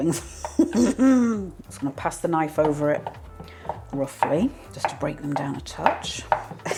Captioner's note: laugh; chop chop chop